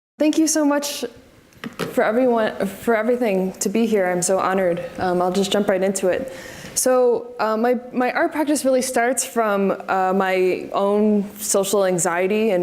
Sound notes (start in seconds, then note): none